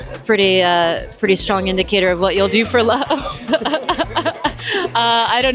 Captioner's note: laughs